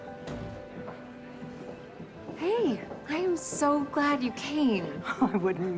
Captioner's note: none